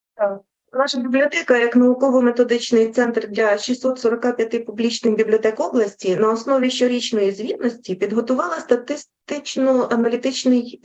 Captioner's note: foreign Language Spoken